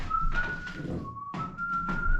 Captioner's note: whistling